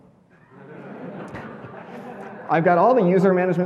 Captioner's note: audience laughing